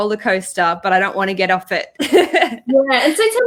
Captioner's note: laughs